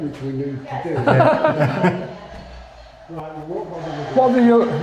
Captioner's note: laughter